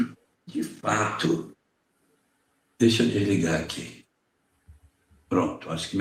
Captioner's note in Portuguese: limpando a garganta